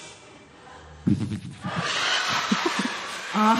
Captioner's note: laughter; imitating hissing